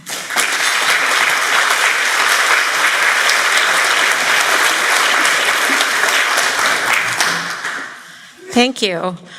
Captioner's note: applause